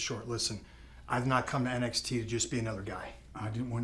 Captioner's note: none